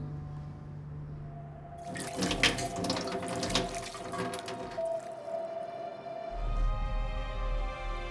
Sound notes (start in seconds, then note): 1.0 pops cork; 1.8 liquor splashes